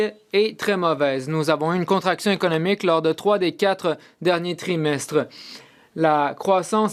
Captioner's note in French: voix de l'interprète